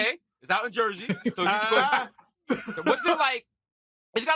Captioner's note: laughing